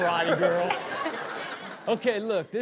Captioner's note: Chanel and audience laughing